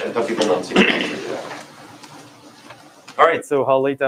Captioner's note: clears throat